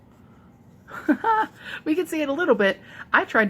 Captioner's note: laughs